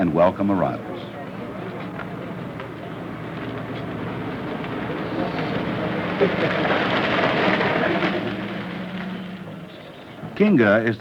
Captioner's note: vehicle approaching